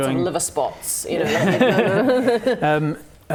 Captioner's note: ageist laughter